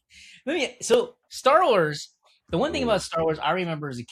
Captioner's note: laughs